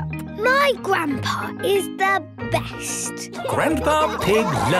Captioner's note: laughing